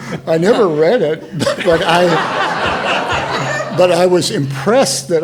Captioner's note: all laughing